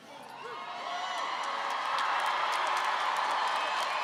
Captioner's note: audience cheering